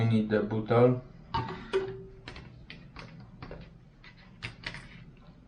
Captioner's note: plastic clatters